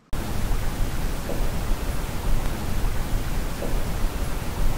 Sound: distant banging

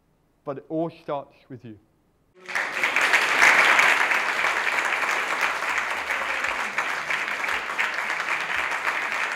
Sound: clapping

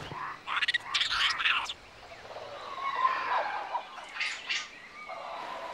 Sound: monkey screeching

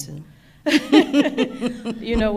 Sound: both laughing

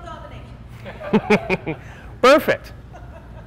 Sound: room Laughs

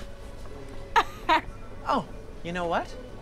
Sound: laughing

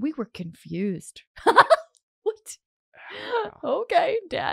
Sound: laughing

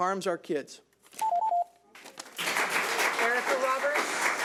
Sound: alarm beeping; audience clapping

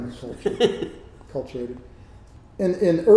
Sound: laughs

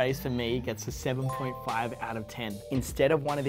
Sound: chime

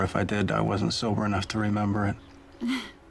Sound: chuckles

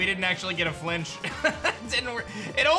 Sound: chuckles

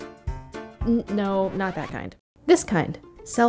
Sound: record scratches

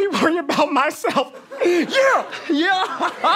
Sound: sobbing; laughing

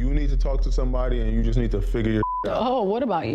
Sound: beep

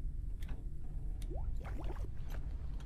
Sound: water bubbling

